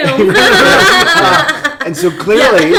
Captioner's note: laughing